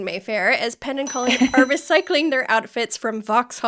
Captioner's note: bell ringing